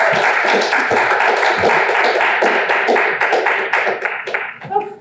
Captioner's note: audience applauds